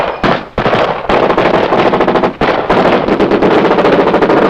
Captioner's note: bomb explodes; guns fire